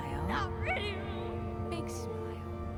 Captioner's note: crying